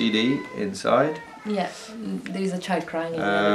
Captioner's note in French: enfant continue a crier